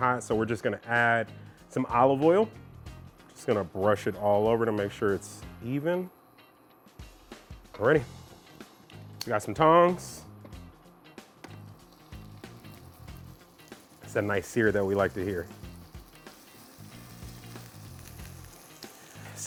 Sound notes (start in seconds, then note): 12.2 kebab sizzling; 16.6 kebabs sizzling